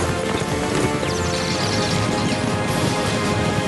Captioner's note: tweet!